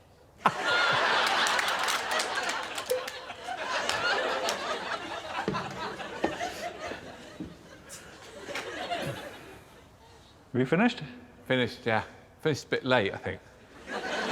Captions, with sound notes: Ah! [plink] -Have you finished? -Finished, yeah. Finished a bit late, I think.